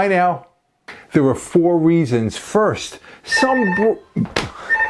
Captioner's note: phone ringing